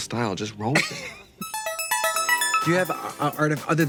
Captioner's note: Katya laughing